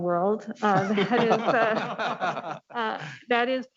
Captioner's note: laughing